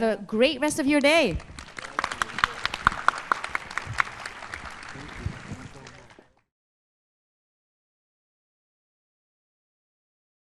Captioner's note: applause